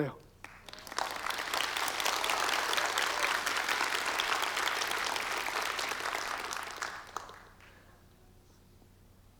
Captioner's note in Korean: 박수